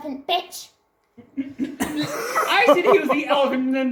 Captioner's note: friends pissing themselves again